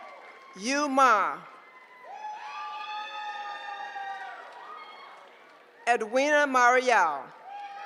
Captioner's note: applause; applause